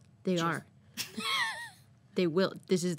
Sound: laughing

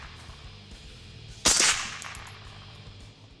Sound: fires; fires

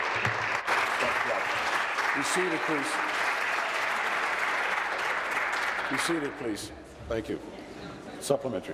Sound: applause

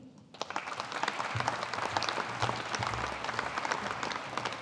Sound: audience applauding

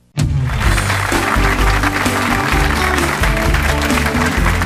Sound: audience applauds

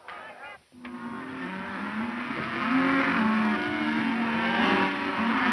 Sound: cattle moaning

